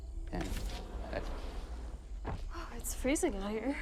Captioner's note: door sliding